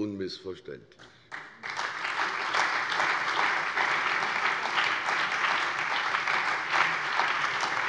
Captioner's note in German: Beifall bei der CDU und dem BÜNDNIS 90/DIE GRÜNEN sowie bei Abgeordneten der SPD